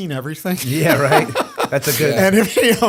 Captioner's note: laughter